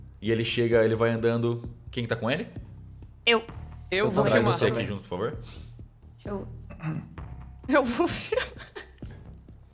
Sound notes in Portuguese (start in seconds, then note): 8.0 risos